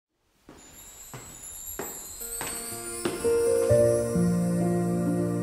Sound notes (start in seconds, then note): 1.0 steps on the stairs in the hallway; 2.8 ♫ Peaceful music